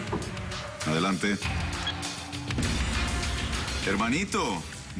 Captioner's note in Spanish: Toques en la puerta